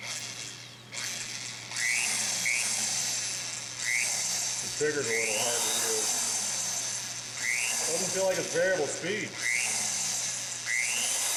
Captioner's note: drilling noise